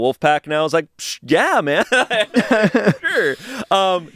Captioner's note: laughs